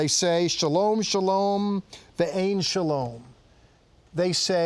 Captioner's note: speaking in Hebrew